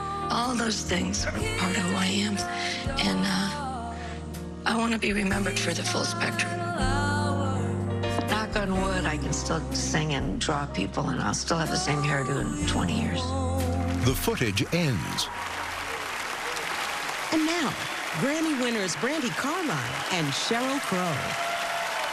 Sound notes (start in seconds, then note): 13.4 cheering and applause